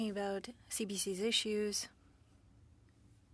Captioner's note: speaking French